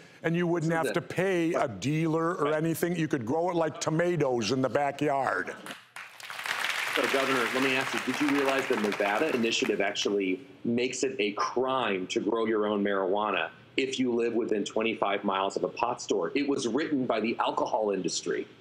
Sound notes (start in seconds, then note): 5.7 audience applauds